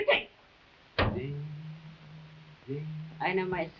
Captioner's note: hairbrush thuds